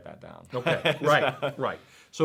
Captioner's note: laughs